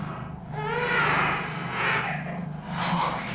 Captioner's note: baby monster roars